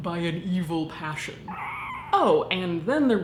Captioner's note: shrieking